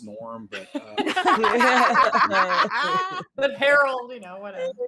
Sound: all laugh

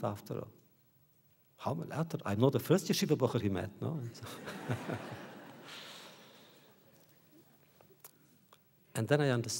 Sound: laughter

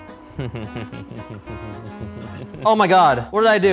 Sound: chuckling

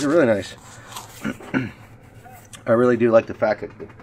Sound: clears throat

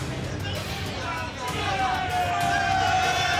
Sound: cheering

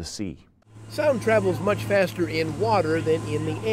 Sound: voiceover

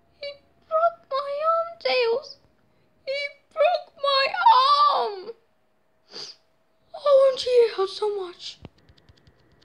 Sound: sniff

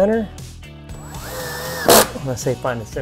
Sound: drilling sound

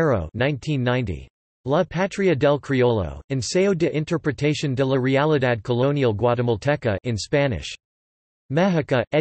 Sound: in Spanish

